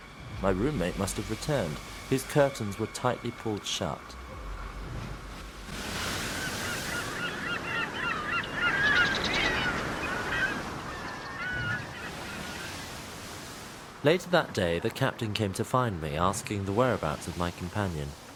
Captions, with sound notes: My roommate must have returned his curtains were tightly pulled shut. [Waves and seagulls] Later that day the Captain came to find me asking the whereabouts of my companion